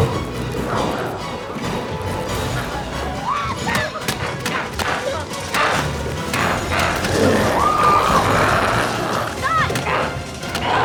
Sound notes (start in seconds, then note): 1.5 dramatic music continues; 3.8 Chalee shrieks; 6.7 group screaming